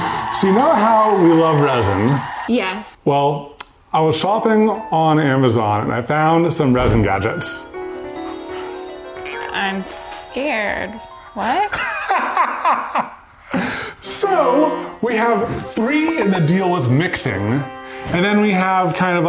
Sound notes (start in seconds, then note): 7.4 uplifting piano music; 11.8 laughs